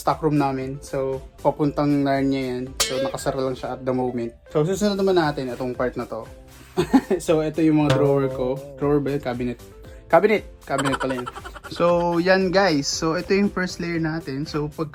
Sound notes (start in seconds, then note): 6.8 laughs